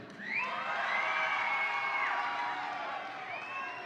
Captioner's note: audience cheering